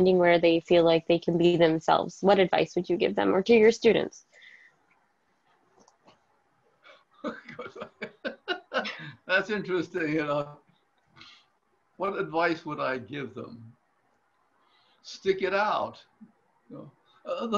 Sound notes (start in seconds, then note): 7.2 laughs